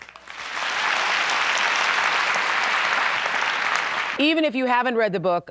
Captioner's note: applause